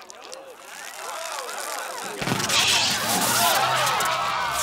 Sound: sparks crackling

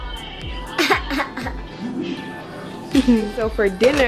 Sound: laughs

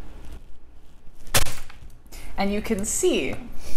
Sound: isomalt shatters

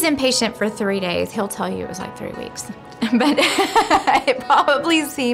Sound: laughing

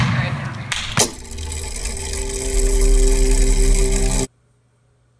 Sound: mechanism whirring

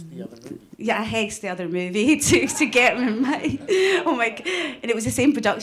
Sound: laughs

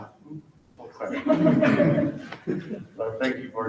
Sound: people laughing

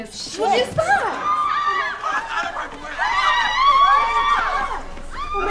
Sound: group screaming

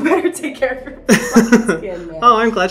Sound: Hyram laughing

